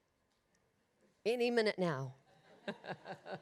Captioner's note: laughs